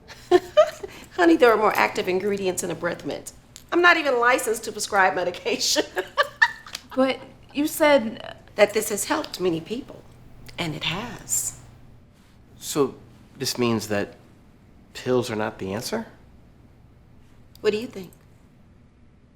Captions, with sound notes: (Dr. Raddick laughs) Honey, there are more active ingredients in a breath mint. I'm not even licensed to prescribe medication (laughs). - But you said - That this has helped many people and it has. So this means that pills are not the answer? What do you think?